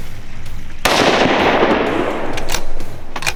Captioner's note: gunshot